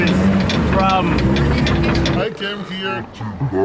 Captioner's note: clunking